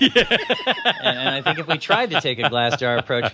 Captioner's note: laughs